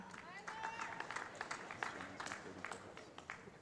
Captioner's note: voiceover; applause